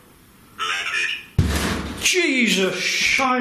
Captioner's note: bang